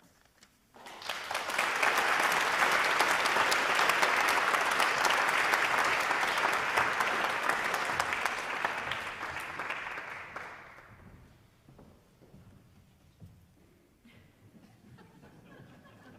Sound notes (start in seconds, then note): 4.4 applause